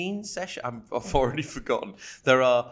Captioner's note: laughing